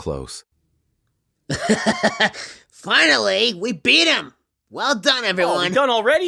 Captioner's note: laughing ecstatically